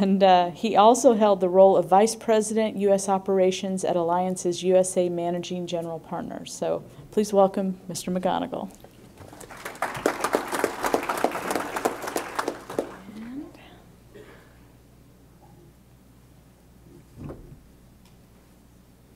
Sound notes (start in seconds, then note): 14.1 applause